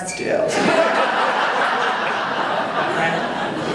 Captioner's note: audience laughing